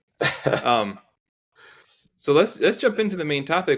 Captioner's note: laughing